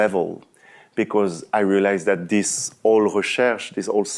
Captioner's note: french